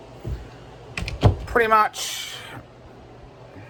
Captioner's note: bedroom door closes